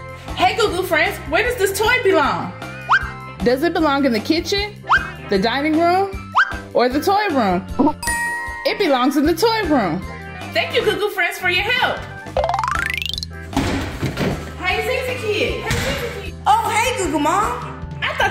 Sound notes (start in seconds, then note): 8.0 bell dings; 12.3 xylophone sound effect; 13.6 ball thudding